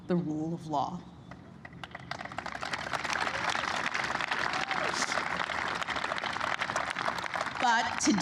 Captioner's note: applause